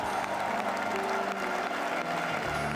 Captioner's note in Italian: Applauso